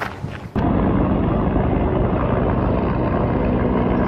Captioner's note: helicopter sounds